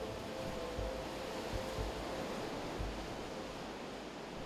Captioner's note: ocean waves